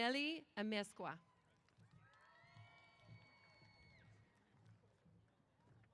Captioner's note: applause & Cheers